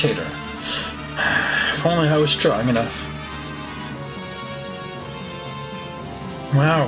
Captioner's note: sigh